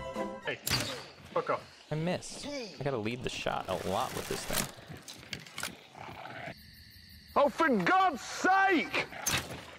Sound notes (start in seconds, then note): 6.5 crickets; 7.3 Jeremy Clarkson yelling